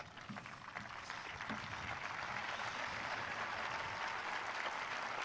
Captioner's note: audience applauding